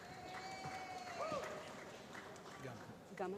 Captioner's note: applause